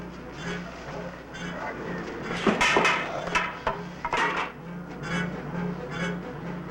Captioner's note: suspenseful music; broom clattering